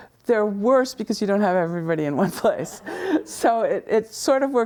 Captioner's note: laughs